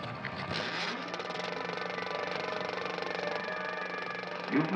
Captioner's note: film projector clicking